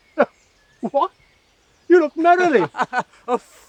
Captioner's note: laughs